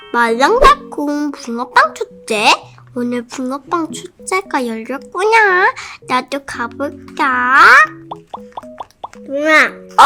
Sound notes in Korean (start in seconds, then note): 8.0 졸졸졸